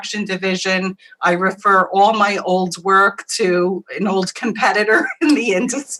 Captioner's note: laughs